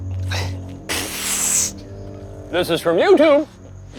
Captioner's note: hissing